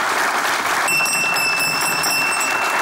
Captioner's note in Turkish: Zil sesi